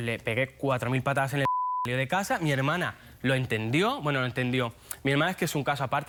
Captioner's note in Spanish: Bip